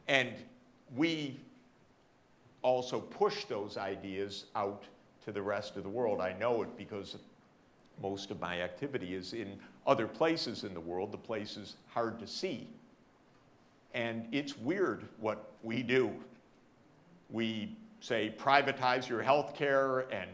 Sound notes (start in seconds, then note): none